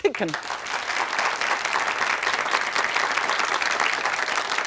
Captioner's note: audience applauding